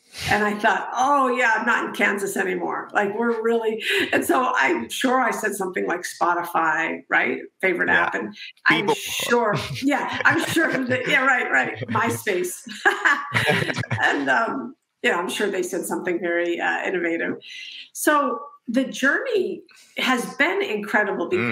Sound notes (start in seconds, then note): 13.3 laughing